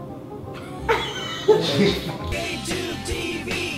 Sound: laughs

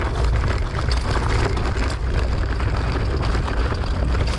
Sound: bike clattering

